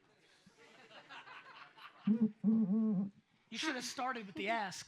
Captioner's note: audience laughs